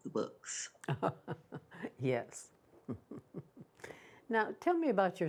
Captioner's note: chuckles